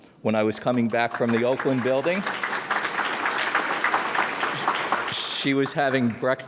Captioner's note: audience claps